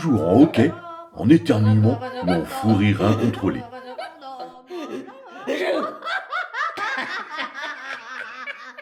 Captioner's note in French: rires